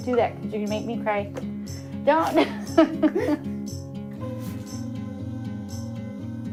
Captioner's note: laughs